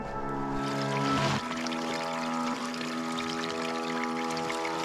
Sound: water bubbling

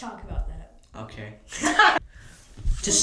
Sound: laughter

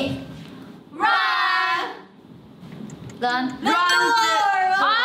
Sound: speaking in Korean; timer ticking; bell rings

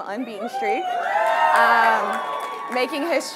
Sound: audience cheering

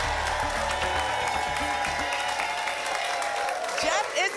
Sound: applause and cheering cont

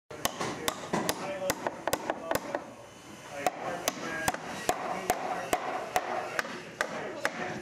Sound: hammer hitting a nail

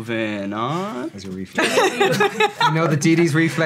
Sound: laughing

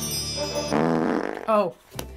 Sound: fart soundtrack

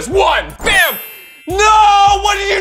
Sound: magical chimes

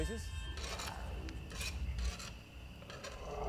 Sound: scraping metal; creature growls

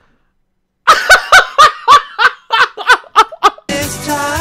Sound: laughs hysterically

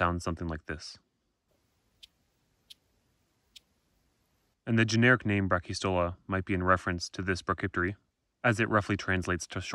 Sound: chirping

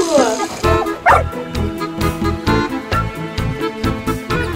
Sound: puppy barks

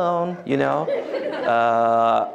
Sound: laughter

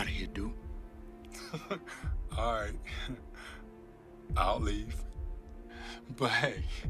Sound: chuckles

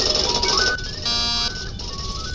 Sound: door buzzes

